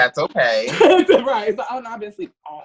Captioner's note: laughs